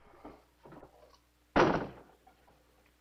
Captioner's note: door thuds